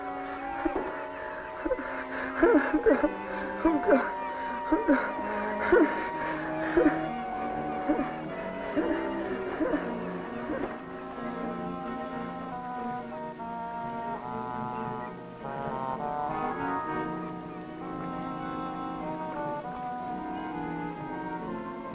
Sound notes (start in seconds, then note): 0.0 sobbing; 0.2 deep panting; 5.2 heavy breathing; 12.1 gentle dramatic music